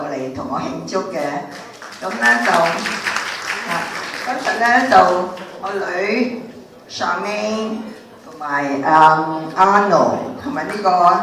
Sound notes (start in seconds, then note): 1.5 audience applauding